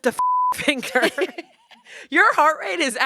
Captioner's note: laughter